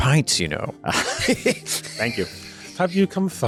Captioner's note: laughter